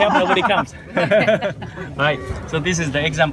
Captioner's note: laughs